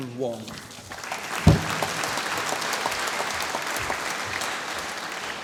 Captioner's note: applause